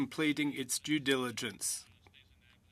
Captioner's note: speaking french